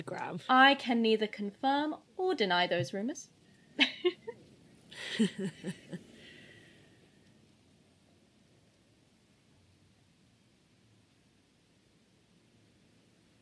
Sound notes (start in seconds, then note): 4.9 both laugh; 8.5 a pause